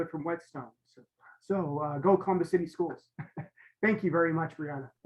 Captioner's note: chuckles